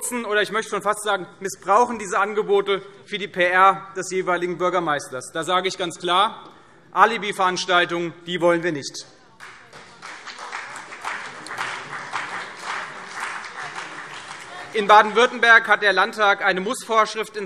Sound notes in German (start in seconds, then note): 9.4 Beifall CDU und BÜNDNIS 90/DIE GRÜNEN